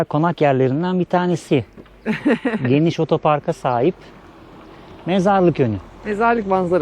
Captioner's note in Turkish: kahkaha